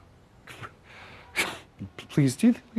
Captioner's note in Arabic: ضحكة مكتومة